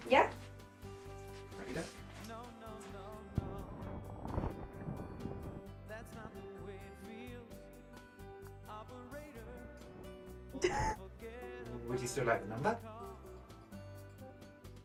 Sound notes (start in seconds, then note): 10.6 laughing